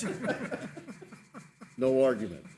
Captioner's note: laughing